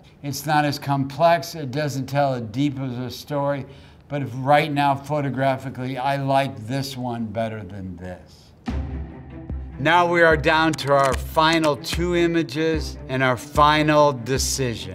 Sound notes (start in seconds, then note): 10.3 counter ticking